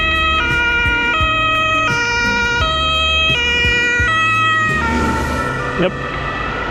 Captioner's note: wind Blowing